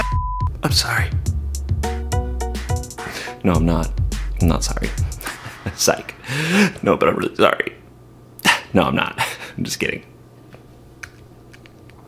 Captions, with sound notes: (beep) - I'm sorry. No, I'm not. I'm not sorry. (laughs) Sike. (sharply inhales) No, but I'm really sorry. (laughs) No, I'm not. I'm just kidding.